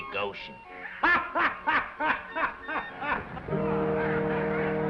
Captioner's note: playful music; waiter laughs; attendees chattering; somber music